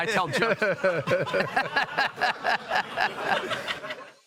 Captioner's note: all laughing